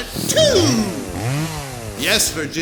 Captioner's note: chainsaw noises